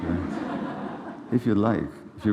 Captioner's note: laughter